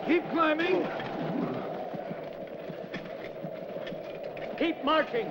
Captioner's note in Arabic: تهب الرياح